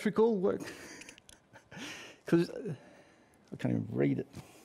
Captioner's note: laughs